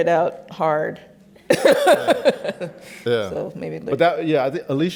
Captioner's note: laughs